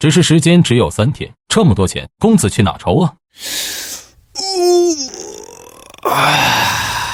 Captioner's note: sigh